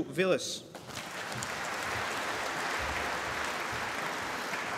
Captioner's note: applause